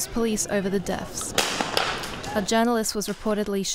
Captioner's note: guns firing